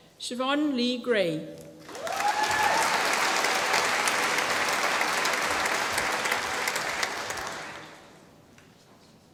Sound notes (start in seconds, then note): 1.8 applause